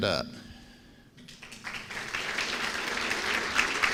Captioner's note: applause